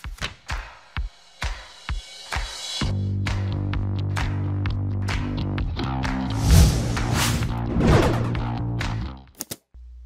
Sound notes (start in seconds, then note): 0.0 drum and bass music; 6.3 whoosh